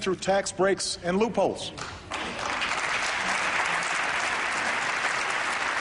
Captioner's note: applause